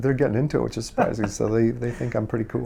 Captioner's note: interviewer laughs